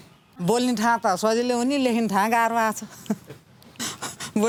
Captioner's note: laughing